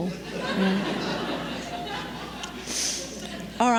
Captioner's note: laughter